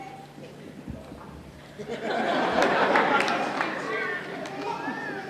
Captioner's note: laugher